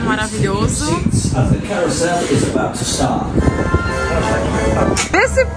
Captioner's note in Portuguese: narração em inglês